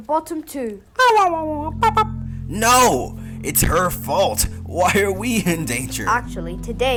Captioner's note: imitates pac-man's death sound